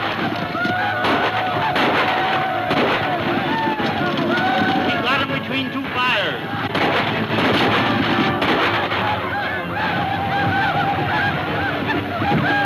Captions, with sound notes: - We've got 'em between two fires. (gunfire pops) (tense music)